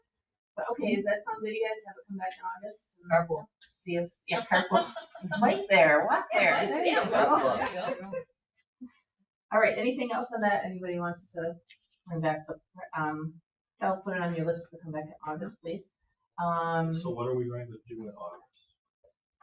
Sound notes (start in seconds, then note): 3.2 participant speaks distantly; 8.0 people chuckle